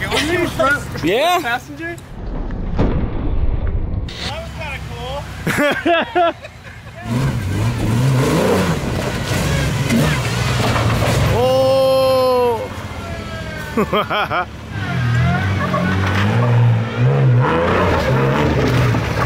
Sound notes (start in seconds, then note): 4.1 static sound; 5.4 laughs; 7.0 engine revs; 11.4 cheers; 11.7 laughs; 16.2 engine revving